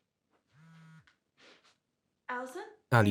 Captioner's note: phone buzzing